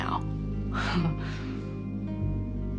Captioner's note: chuckles